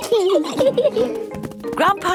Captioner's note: giggling